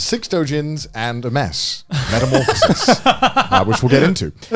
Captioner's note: all laughing